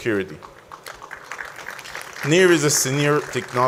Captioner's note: audience applauds